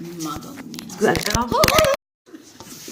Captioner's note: crashing sounds. yes the phone did fall